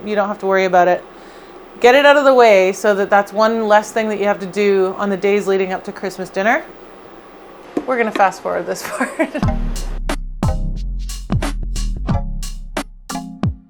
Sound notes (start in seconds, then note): 8.9 laughs; 10.4 calm hip-hop music